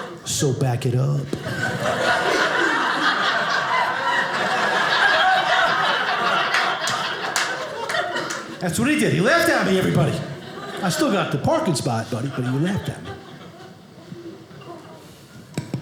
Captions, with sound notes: So back it up. (audience laughing) That's what he did. He laughed at me, everybody. I still got the parking spot though.